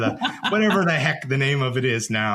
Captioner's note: laughs